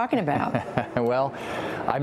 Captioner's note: laughter